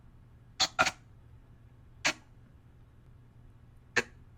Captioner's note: intermittent static